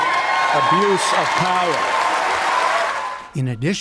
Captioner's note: cheering and applause